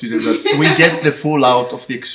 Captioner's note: irish laughing